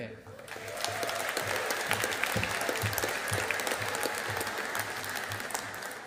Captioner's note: audience applauding